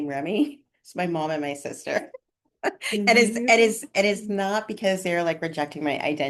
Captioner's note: laughter